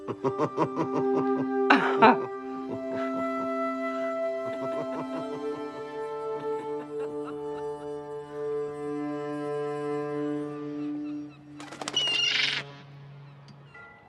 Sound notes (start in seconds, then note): 0.0 Cody chuckling; 0.0 Martha laughing; 2.3 soft music; 4.3 laughter; 10.6 birds cawing; 10.8 squawking